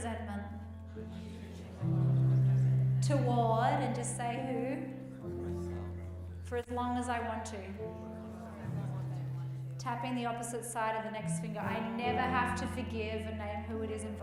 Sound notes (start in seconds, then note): 4.9 group murmuring